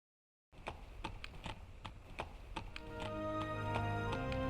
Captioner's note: horse hooves clopping